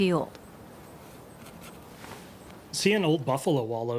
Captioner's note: brush scratching